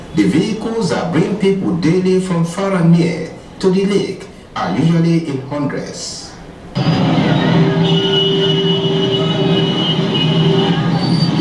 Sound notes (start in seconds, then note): 6.7 cars honking